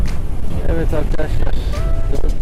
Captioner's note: sorry for loud wind noise